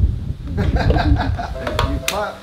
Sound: clapping and tapping; laughing

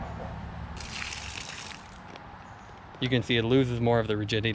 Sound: water splashing

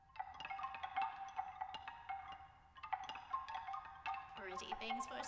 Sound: bamboo rattles

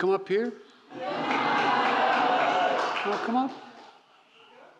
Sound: applause

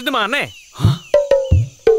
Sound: gasps

